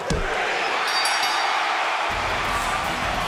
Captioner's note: bell rings